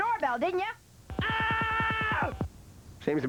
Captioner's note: man yelling